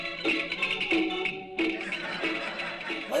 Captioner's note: laugh track